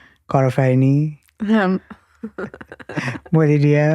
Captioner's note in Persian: خنده